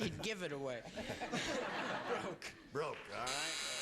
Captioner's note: laughs